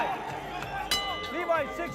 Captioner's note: ringing